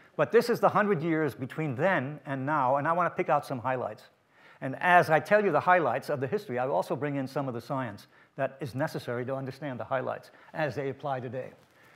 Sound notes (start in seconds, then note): none